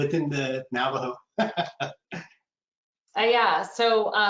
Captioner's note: laughing